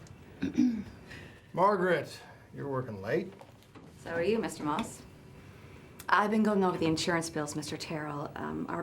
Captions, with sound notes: (Margret clears throat) - Margret, you're workin' late. - So are you, Mr. Moss. I've been going over the insurance bills, Mr. Terrill.